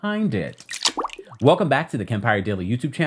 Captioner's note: segue squelching